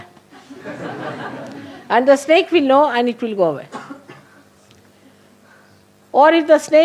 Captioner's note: laughter